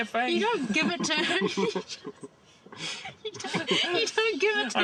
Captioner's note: all laughing